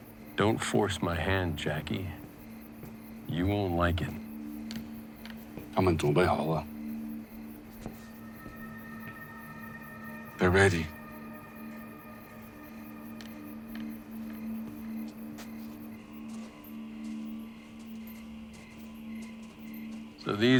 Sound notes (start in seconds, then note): 5.7 worker speaking Chinese; 7.2 tense music; 15.0 footsteps padding; 16.2 crickets chirping; 17.4 footsteps crunching